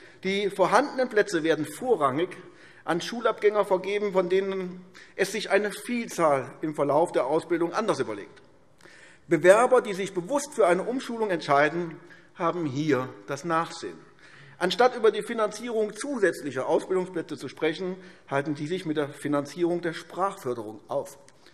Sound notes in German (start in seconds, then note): none